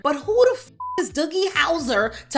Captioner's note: beep